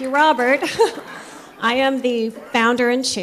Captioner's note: laughter